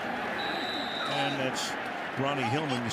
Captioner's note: whistle